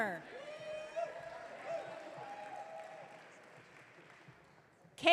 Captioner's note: audience cheering